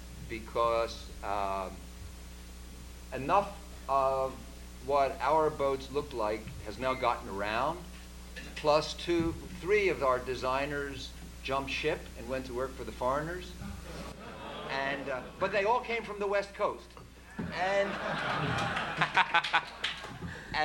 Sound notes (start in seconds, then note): 13.6 audience boos; 17.5 laughter